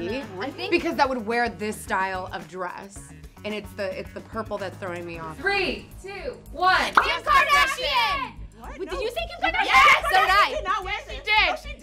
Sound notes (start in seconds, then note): 6.8 all yell